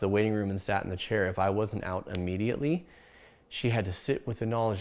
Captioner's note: fingers snap